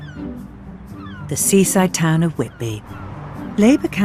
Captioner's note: voiceover